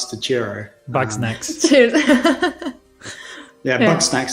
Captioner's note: laughter